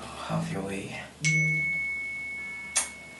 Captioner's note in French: bips téléphoniques